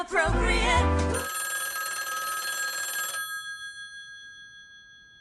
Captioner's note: phone ringing